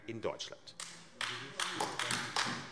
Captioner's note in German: Beifall AfD